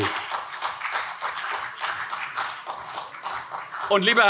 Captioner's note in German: Beifall CDU